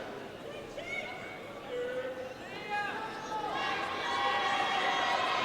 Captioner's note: audience faintly shouting